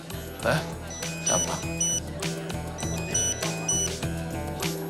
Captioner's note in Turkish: Telefon çalıyor